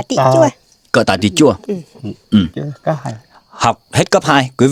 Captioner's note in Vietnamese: hắng giọng